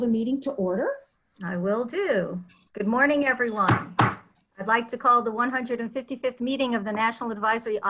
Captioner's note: gavel knocks